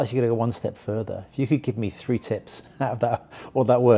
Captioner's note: laughs